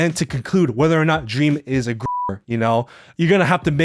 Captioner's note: beeps